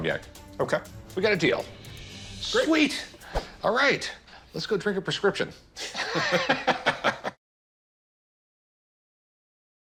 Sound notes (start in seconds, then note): 5.8 both laughing